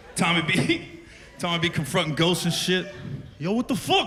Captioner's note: chuckles